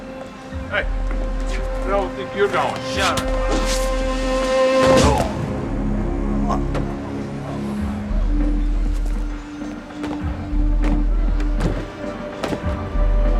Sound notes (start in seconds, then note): 5.0 man grunts; 10.1 suspenseful music